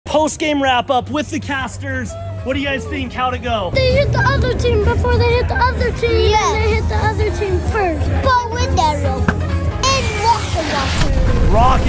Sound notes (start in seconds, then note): 7.6 intense electronic music; 9.2 arrow clicks; 10.9 explosion booms